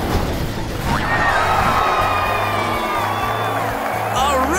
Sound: big cheers

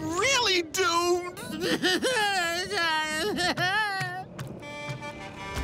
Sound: crying

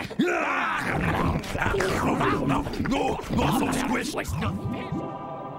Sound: grunting, chomping, roaring

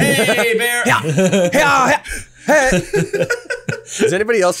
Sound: loudly laughs

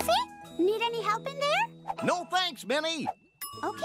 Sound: bell rings

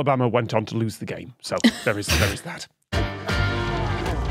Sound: guests snickering

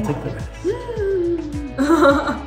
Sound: female friend gasps; host laughs

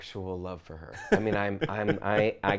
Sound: laughs

